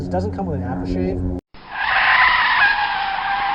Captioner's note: screech